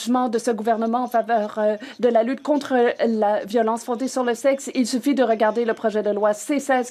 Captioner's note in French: voix de l'interprète